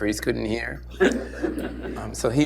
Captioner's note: laughter